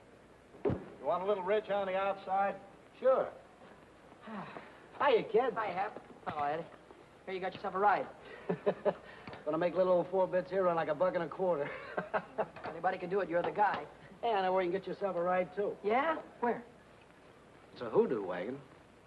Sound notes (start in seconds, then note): 4.2 Billy sighing; 8.3 happy chuckling; 11.6 happy laughing